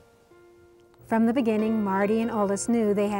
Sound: voiceover

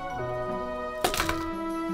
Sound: thud

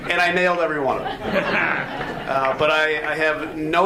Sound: audience laughs

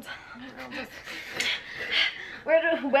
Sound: both panting

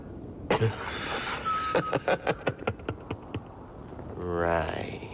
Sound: dry chuckles

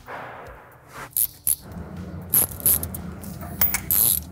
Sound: tool clicking

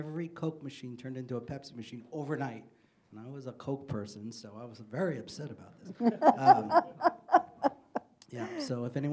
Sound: laughing

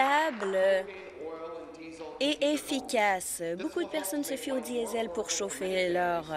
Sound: applause

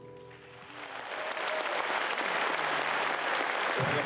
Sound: applause

